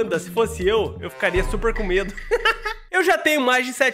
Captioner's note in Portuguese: risos